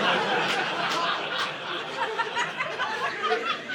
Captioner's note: audience laughing